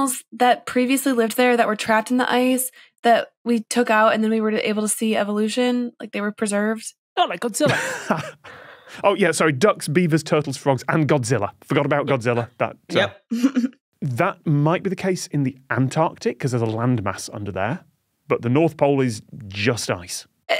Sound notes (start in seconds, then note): 7.6 chuckles; 13.4 snickers